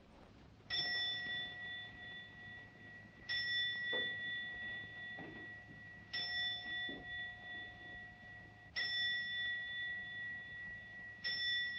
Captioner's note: clock chimes repeatedly twelve times